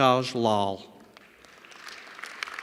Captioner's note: applause